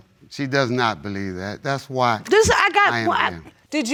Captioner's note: stammering